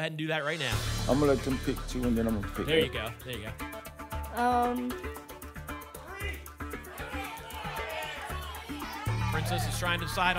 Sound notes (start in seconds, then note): 6.0 audience shouting numbers